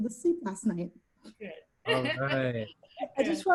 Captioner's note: laughter